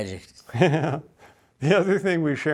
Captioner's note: laughs